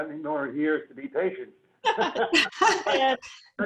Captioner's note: laugh; laughs